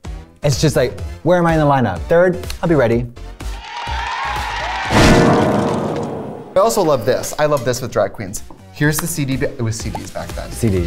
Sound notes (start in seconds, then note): 3.4 cheering